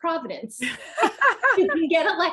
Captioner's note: laughs